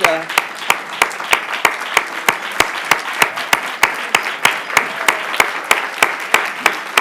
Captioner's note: applause